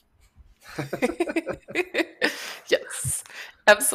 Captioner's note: laughter